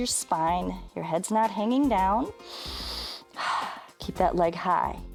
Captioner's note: inhales and exhales